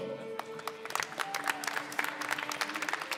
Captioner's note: applause